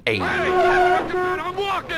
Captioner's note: taxi honks horn